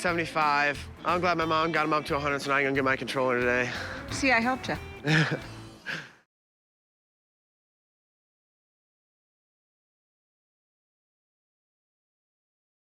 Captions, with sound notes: I'm glad my mom got him up to $100, so now I can go get my controller today. See, I helped you. [laughs]